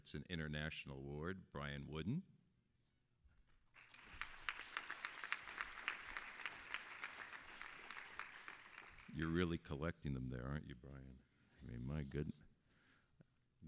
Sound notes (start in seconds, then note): 3.7 applause